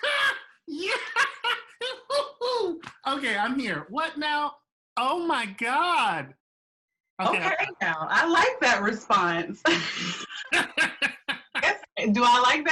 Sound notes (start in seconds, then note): 1.6 reacts with happy loud noises